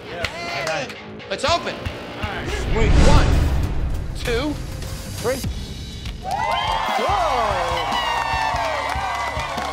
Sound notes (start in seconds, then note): 6.2 crowd cheers